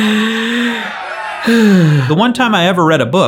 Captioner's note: sighs; laughs